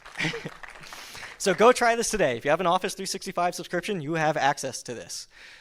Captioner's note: applause